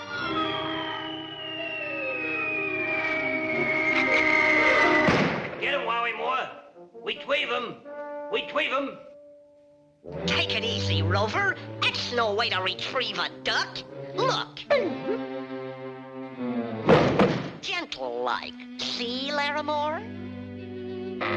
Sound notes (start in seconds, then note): 0.0 torpedo whistling; 5.0 Daffy thuds; 14.6 ominous music; 16.8 Laramore thuds